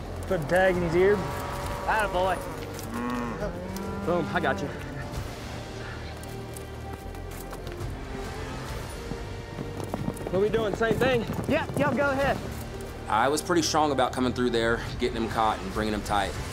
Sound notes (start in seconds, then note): 0.6 cow mooing